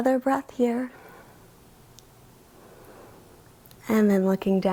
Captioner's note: inhales